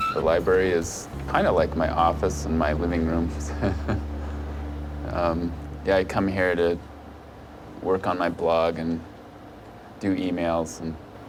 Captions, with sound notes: The library is kind of like my office and my living room. (laughing) Yeah, I come here to work on my blog and do e-mails.